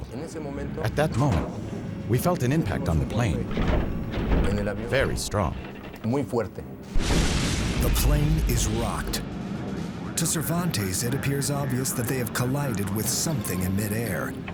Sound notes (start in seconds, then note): 3.4 thumping; 6.9 loud thud